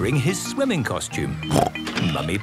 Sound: snorts

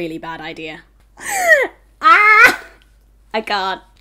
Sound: laughing

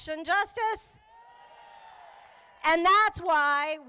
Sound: crowd applauding

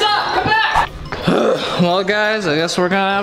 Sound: grunts

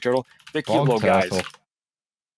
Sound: keyboard tapping

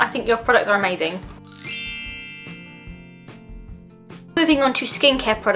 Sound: bell transition sound effect

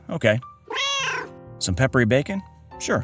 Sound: meow

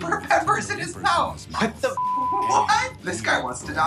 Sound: beep

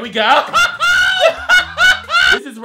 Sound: laughs

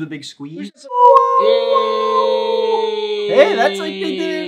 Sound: all cheering

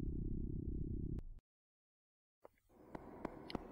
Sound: rumbling stops

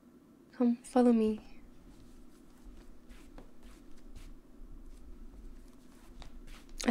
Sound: footsteps

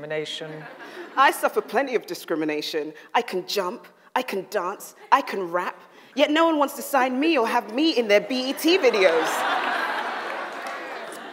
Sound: audience laughs; audience laughs

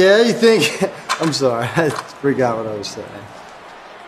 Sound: laughs

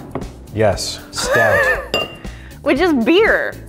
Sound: laughs

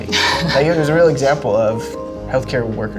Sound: laughs

